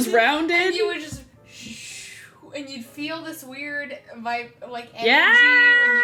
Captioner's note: swooshes